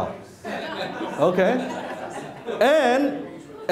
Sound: laughing

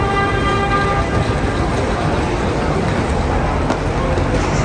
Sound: traffic noise

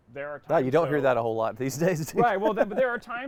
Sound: laughs

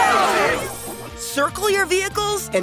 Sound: cheering

